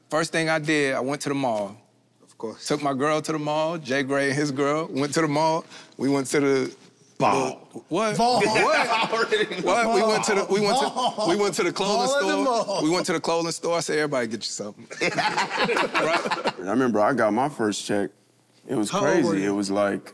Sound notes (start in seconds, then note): 14.9 group laughs